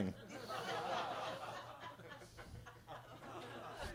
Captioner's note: attendees laughing